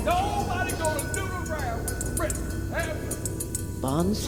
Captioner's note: yelling